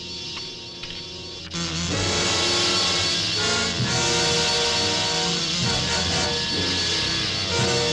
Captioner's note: dramatic orchestral music; wasps buzzing